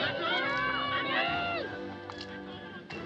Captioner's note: children Shouting